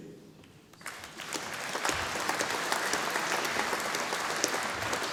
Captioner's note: audience applauding